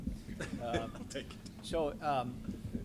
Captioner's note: chuckles